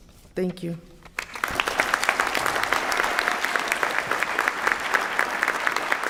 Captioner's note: applause